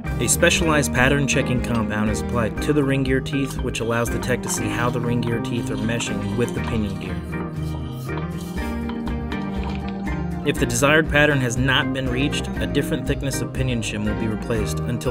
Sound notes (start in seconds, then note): 7.8 background music; 7.8 gear rotating with a little noise